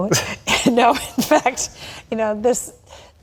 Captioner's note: laughter